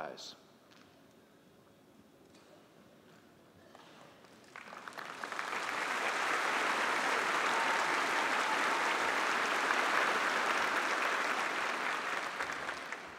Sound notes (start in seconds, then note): 0.8 applause